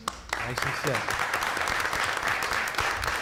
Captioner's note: applause